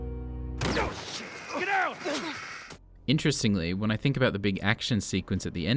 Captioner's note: sniper shot